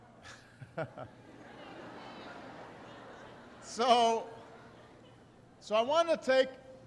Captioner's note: laughter